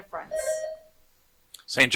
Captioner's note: buzzer buzzing